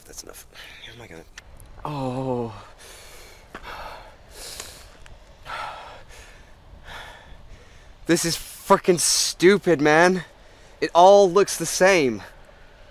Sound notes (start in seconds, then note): 1.8 tourist groans; 3.9 heavy breathing